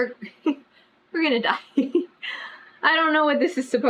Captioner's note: laughs